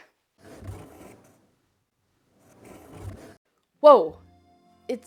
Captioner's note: fusuma opens and closes